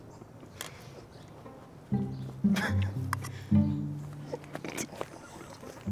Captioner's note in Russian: т ихий смех